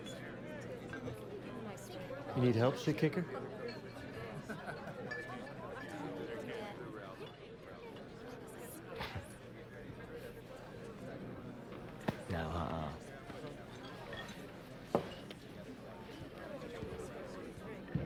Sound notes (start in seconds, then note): 9.1 chuckles